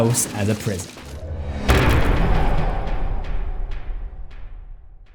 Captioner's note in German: impact